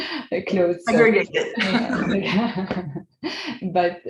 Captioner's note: group laughs